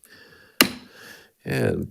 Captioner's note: gavel thuds